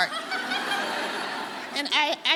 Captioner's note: audience laughing